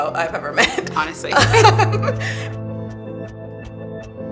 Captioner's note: laughs